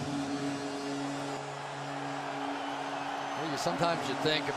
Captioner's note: horn honking